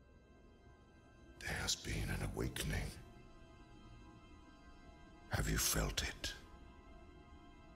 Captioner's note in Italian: Voce fuoricampo, dal trailer del film "Star Wars: il risveglio della Forza"